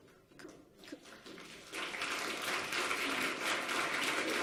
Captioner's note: audience applauds